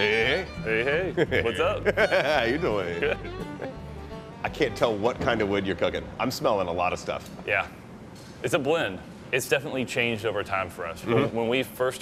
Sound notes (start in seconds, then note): 0.6 laughs